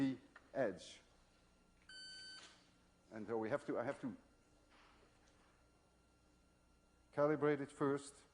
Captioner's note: metal detector beeps